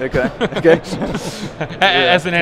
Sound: laughing

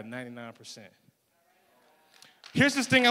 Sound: applause

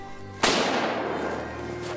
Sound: gun shot

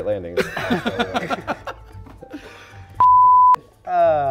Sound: laughter

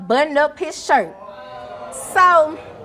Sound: audience groaning

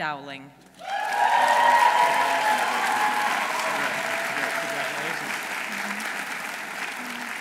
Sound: audience applauding; audience cheering

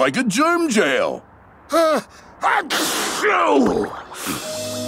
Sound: sneezing

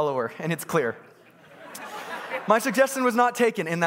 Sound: congregants laughing

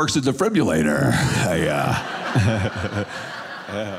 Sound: audience laughing

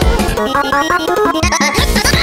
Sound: hehehe

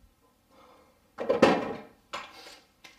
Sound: object clattering

